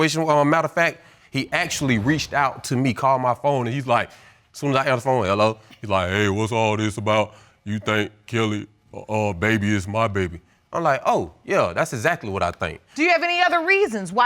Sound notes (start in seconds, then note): 6.1 imitating friend's accent